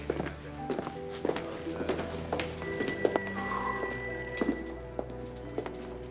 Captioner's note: telephones ringing in station; dramatic music